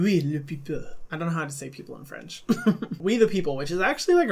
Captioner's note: laughing